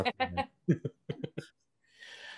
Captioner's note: laughing